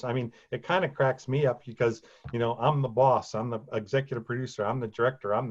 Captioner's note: none